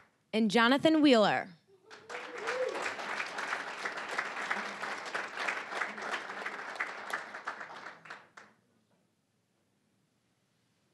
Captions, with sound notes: And Jonathan Wheeler. (applause, cheering) (applause)